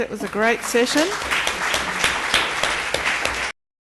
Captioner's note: applause